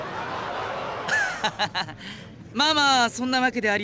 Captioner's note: laugh